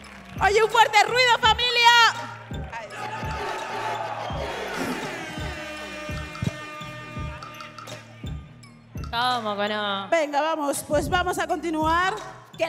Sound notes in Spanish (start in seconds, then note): 1.8 Vítores